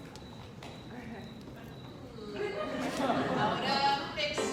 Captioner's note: laughter